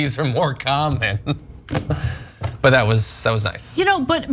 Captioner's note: laugh